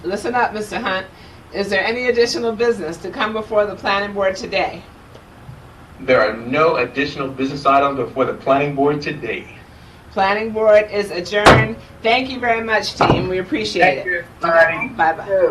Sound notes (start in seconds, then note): 11.4 gavel taps